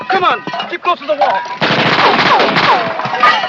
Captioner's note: gunshots